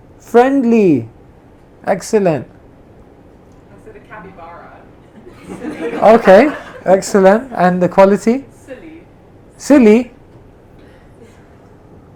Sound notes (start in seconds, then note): 5.1 laughter